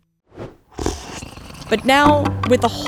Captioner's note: slurping sound; uptempo music